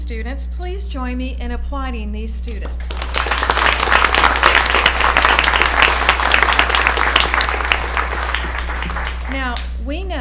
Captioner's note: applause